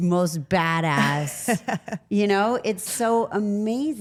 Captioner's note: Rhea laughs